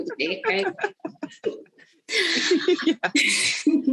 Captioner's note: laughing